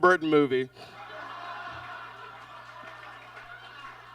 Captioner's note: audience laughs